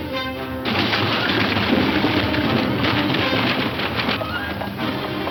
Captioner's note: horse hooves clattering